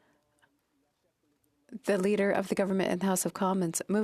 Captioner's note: speaking French